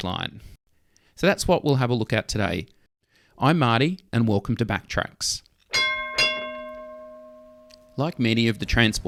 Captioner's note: tram Bell